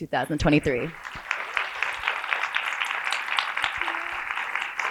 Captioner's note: applause